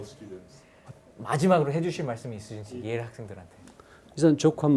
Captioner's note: speaking in Korean